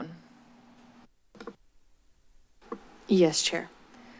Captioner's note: silence